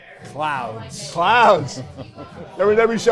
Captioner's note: chuckles